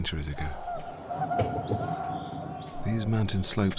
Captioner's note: bird calls intensify